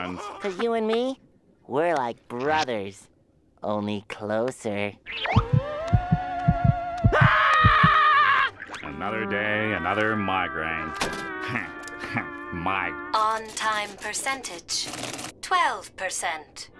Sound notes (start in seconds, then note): 7.1 screaming